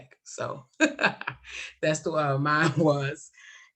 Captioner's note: laughs